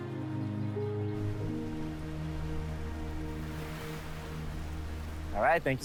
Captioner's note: palm fronds fluttering